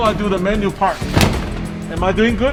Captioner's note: bag slams